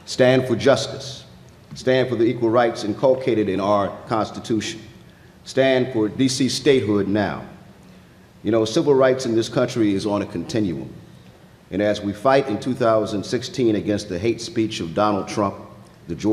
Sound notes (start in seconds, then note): none